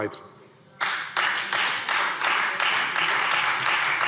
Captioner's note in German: Beifall Freie Demokraten